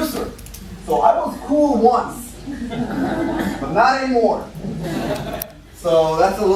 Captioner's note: laughter